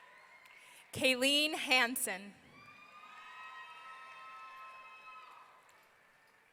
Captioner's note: audience cheering